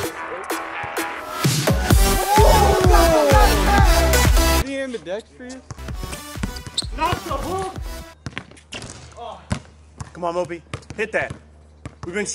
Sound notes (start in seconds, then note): 2.0 primal screaming